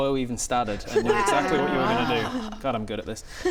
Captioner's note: unimpressed wows